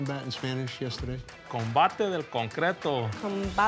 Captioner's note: speaks in Spanish